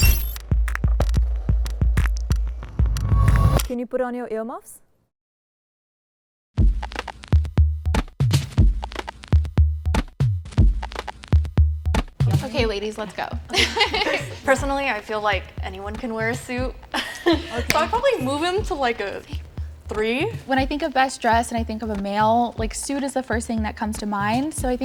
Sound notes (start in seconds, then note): 0.4 suspenseful music; 13.5 laughs